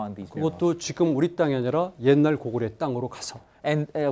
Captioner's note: speaking in Korean